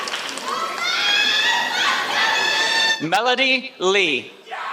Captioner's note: applause